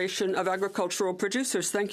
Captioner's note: speaking French